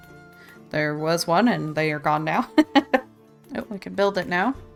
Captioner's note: laughs